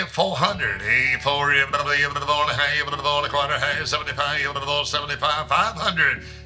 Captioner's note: rapid auctioneer number calling